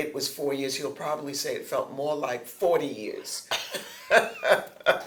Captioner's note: laughter